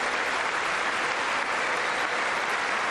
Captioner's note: applause